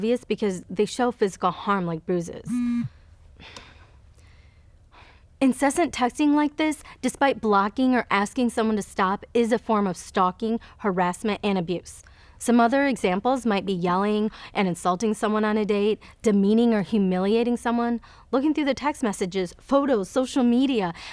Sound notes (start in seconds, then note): 2.4 phone buzzes; 2.5 sighs